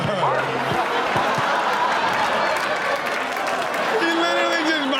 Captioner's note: audience laughs